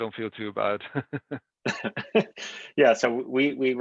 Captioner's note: laughter